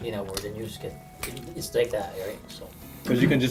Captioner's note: snaps